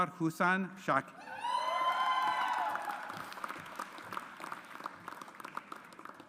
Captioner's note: audience applauds